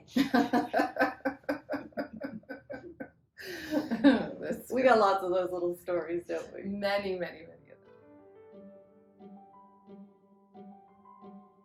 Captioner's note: laughter